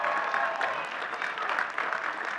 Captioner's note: audience cheering and clapping